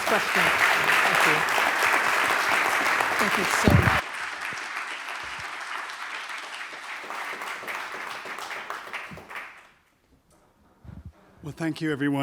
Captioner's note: applause